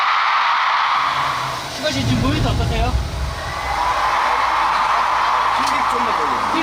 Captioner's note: in need of continuous sound checks due to the cheers